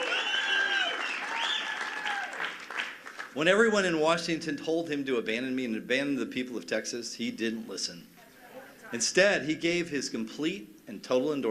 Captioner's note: cheers and applause